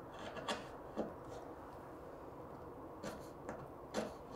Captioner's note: tool scraping